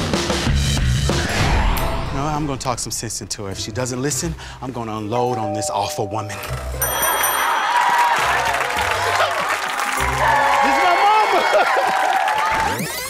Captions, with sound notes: No, I'm gonna talk some sense into her. If she doesn't listen, I'm gonna unload on this awful woman. - ( doorbell ringing ) - ( audience laughing ) This is my mama. ( chuckles )